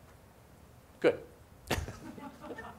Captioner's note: laughs